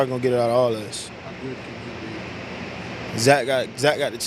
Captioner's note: vibrating, electric sound drowns out interviewer